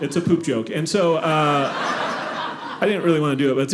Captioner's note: audience laughing